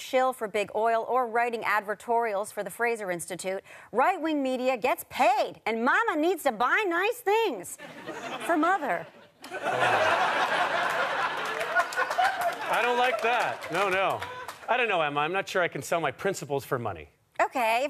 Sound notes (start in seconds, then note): 9.4 audience laughter